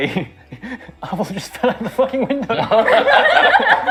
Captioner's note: laughing; laughter